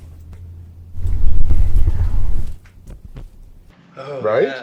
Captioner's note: disembodied Voice